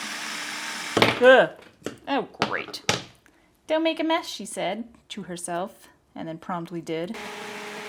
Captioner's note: blender noise; plops. Blender; clunking